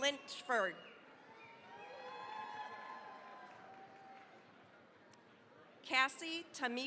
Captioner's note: cheering, applause